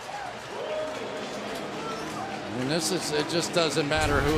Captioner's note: pa announcement